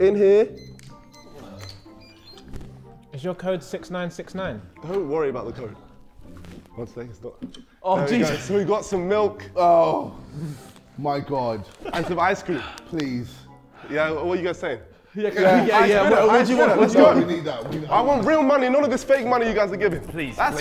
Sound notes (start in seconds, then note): 0.5 safe beeping